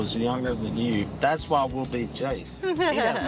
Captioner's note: group laughing